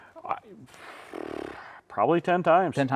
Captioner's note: blowing